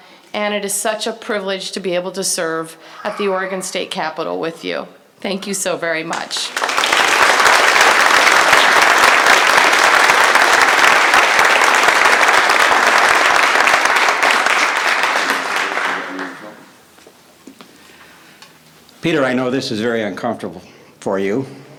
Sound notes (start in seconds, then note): 6.1 applause